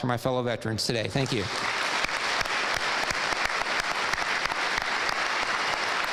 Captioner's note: audience applauding